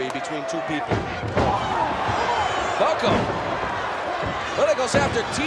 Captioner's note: applause